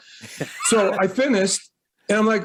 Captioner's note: laughs